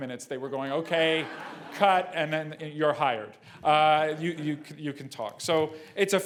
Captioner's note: laugh